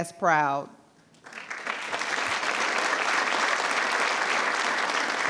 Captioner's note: attendees applauding